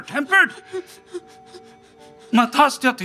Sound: Romeo whimpering

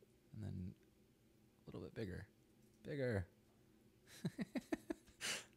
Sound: laughs

